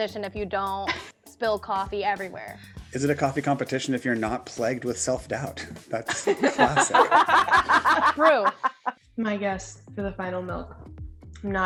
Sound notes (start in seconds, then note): 6.0 laughing sound